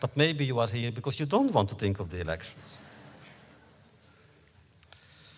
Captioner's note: laughter